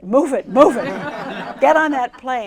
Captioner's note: laughter